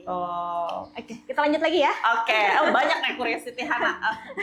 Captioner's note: laughs